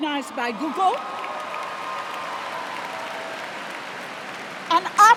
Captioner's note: cheers and applause